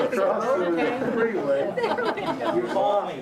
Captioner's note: group laughing